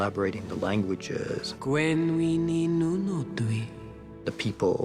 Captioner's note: in elvish